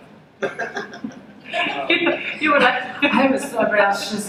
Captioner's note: laughter